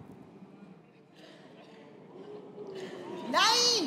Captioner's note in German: Raunen